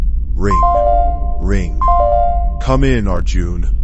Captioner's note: ring. Ring. Ring